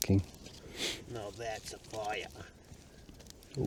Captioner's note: bad Australian accent